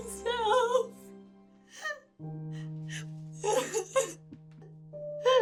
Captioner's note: sobbing